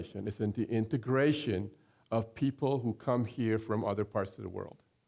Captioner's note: none